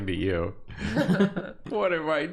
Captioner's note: chuckles